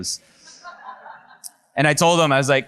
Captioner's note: audience laughs